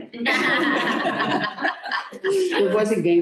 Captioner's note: laughter